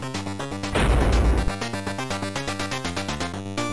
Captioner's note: thud